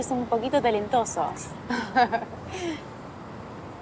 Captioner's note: laughing